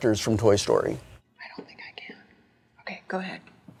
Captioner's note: whispers